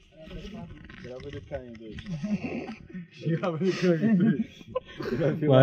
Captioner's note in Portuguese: risos